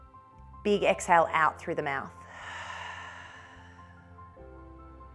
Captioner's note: soft music; exhales